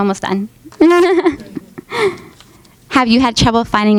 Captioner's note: laughing